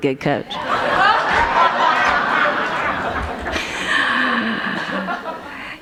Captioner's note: laughter